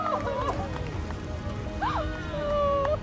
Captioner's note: scream